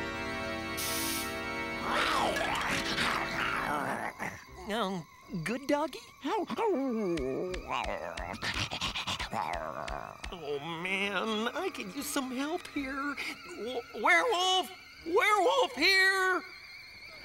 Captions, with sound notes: (GROWLING) -Good doggy? -(WHIMPERS) Oh, man. I could use some help here. Werewolf. Werewolf here.